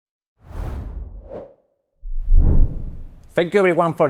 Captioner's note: logo whooshing